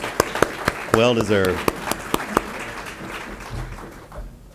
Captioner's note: audience applause